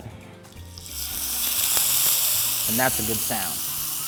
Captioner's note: sizzling